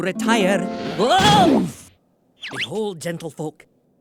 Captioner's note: crashing